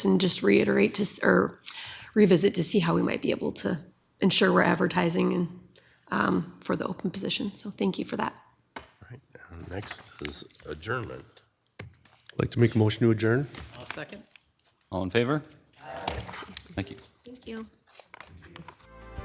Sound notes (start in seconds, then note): 11.7 pat